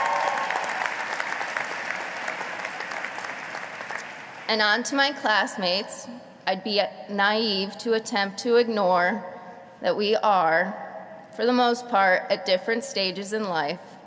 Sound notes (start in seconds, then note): 0.0 applause